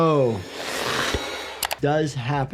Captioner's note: pupils whooshing